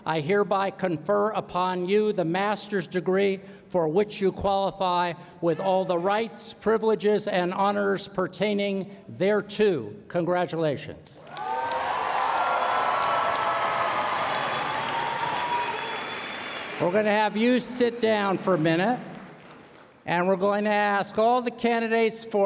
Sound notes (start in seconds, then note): 13.2 cheers and Applause